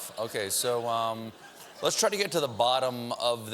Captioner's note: laughter